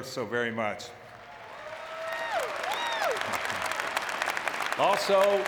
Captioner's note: audience clapping